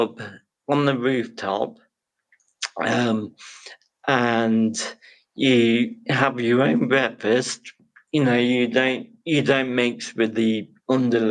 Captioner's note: laughs